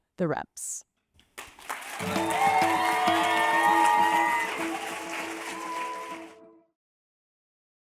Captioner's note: applause and music playing